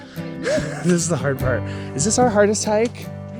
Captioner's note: birds chirping; chuckles